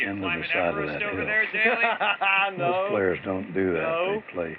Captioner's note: laughs